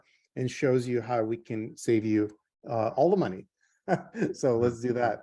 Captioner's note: chuckles